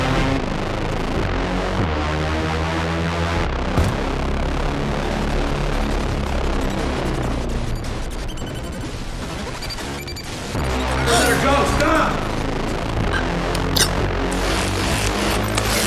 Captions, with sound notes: (crashing) (gasping) Oh. You're welcome.